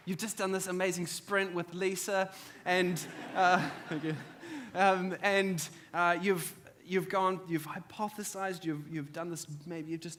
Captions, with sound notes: You've just done this amazing sprint with Lisa. And, thank you. (audience laughs) You've hypothesized, you've maybe just